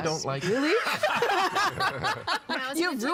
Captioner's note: all laughing